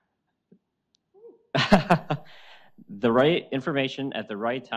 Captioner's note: laughs